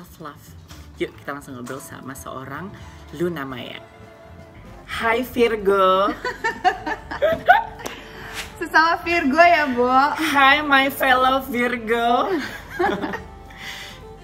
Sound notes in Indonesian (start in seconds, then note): 6.1 Luna laughs; 12.4 Both laughing